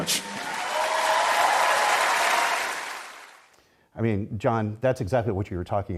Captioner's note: applause